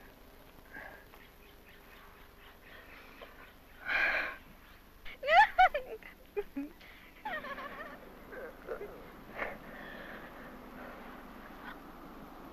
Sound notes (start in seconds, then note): 5.1 judy giggling